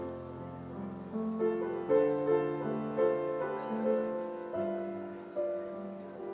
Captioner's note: gentle piano music continues; people chattering continues